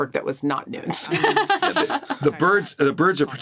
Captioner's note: laughs